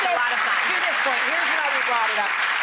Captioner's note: applause